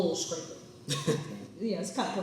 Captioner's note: laughs